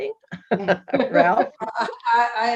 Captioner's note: panel members laughing